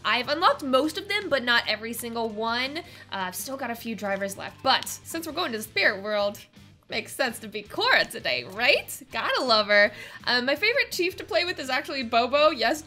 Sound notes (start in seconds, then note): none